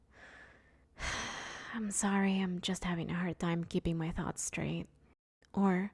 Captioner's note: sigh